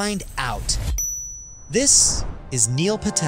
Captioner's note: bell dings